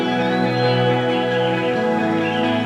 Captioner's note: birdsong